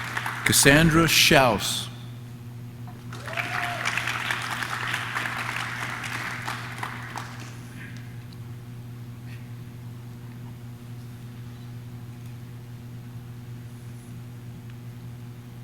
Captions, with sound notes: Cassandra Shouse. (audience cheers) (audience claps)